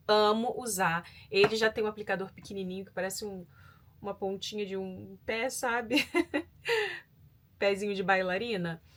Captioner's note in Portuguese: risadas